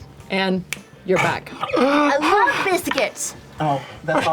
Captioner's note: gasps